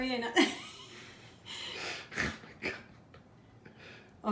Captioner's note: laughs